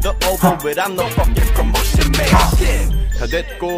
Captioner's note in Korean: 하- 하!